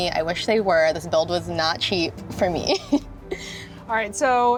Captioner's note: giggles